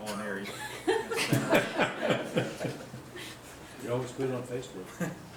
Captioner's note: all laughing